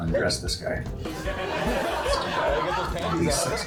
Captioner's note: laughter